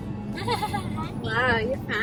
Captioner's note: laughs